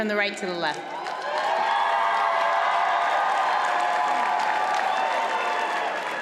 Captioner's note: audience cheers and applauds